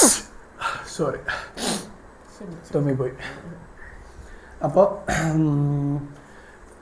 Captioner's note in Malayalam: ചീറ്റുന്നു; നെടുവീർപ്പിടുന്നു; തൊണ്ട ശരിയാക്കുന്നു